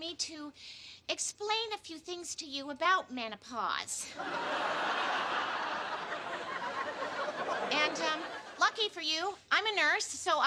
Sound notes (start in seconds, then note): 4.1 laughter